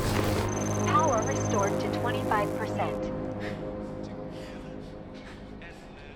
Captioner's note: automated Voice